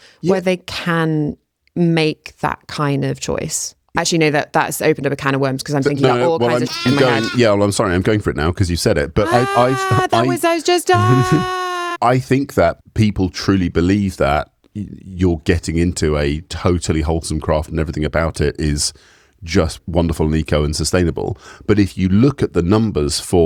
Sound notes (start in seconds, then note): 6.1 baa